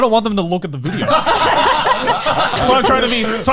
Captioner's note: all laughing